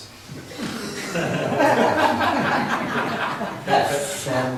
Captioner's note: laughs